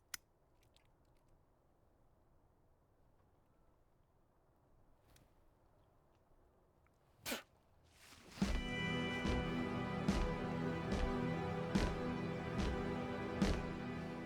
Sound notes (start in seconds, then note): 0.2 lighter clicks shut; 7.2 spits; 8.4 drum beat plays